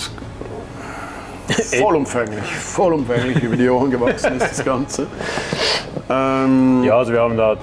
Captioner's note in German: lachen